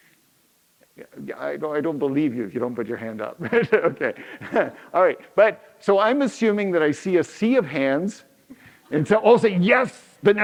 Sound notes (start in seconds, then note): 3.2 laughs